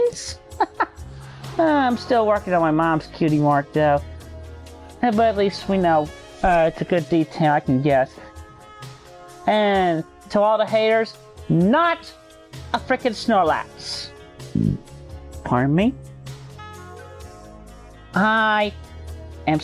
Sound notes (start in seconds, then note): 0.2 laughter; 14.5 burps